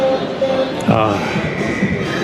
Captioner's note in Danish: Udråb